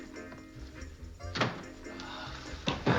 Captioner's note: sighs